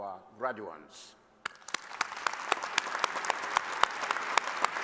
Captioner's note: applause